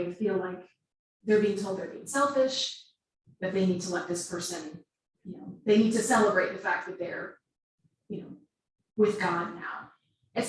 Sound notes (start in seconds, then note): none